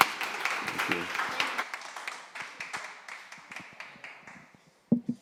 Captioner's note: audience applauding